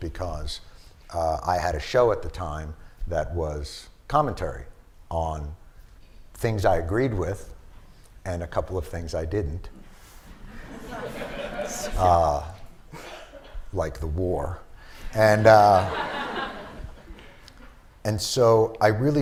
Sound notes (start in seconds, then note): 10.4 laughter; 15.3 laughter